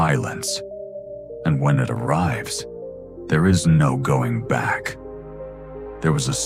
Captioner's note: tone: Narrative, steady pacing